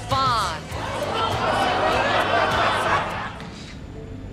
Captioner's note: conversations in background